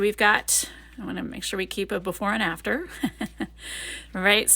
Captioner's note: chuckles